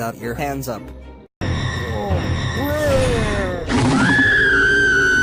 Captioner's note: zombie speak; scream